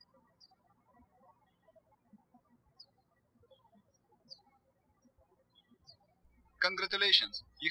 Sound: birds chirping

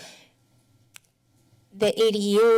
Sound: pause

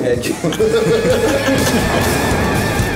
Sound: laughing; rock music

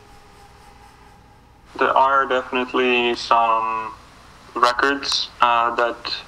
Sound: on phone

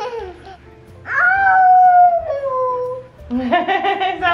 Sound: child howls

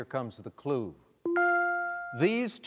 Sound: dinging

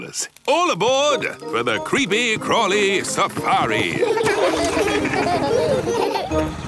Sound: laughing

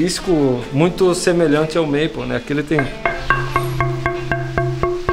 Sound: knocking tone

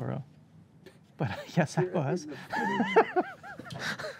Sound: laughs

